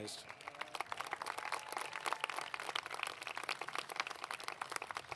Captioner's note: applause